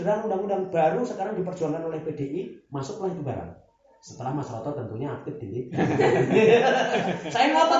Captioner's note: laughs